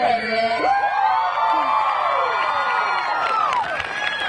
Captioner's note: gradates cheering